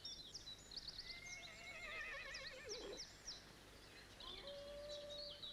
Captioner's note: horse neighs; canine howling